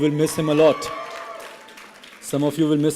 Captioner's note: applause and cheering